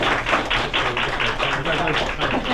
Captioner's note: applause